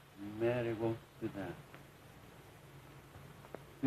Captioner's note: none